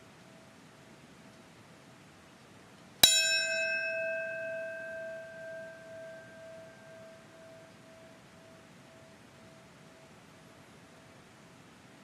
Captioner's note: bell rings